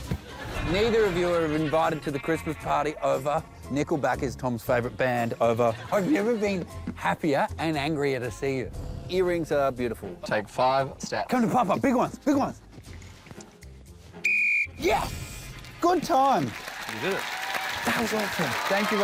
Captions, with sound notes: Neither of you are invited to the Christmas party. Over. Nickelback is Tom's favourite band. Over. I've never been happier and angrier to see you. Earrings are beautiful. Take five steps. Come to Papa. Big ones! Big ones! [BLOWS WHISTLE] Yes! Good time! You did it. That was awesome.